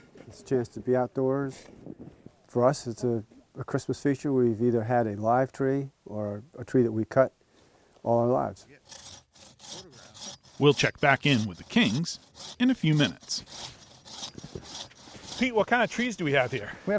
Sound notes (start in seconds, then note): 9.6 saw whirring